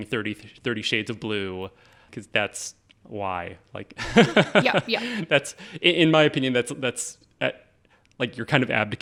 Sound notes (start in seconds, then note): 4.0 laughing